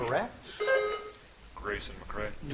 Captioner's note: buzzer chimes